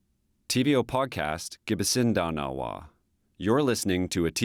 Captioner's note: speaks Indigenous language